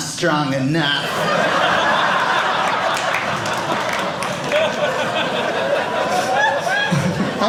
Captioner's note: audience laughing